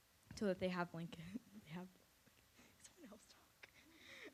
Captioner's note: laughs